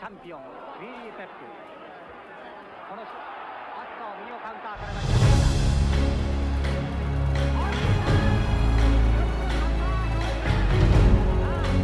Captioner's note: crowd cheers